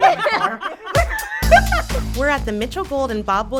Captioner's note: laughs